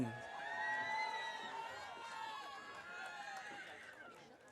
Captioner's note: audience cheering